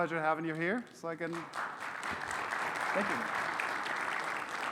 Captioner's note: audience applauds